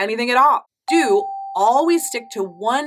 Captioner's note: affirmative dinging